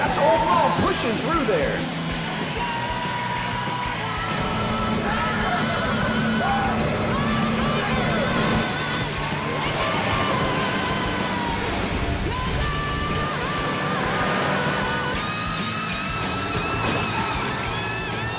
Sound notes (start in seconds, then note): 6.6 crowd cheering; 15.3 guitar solo music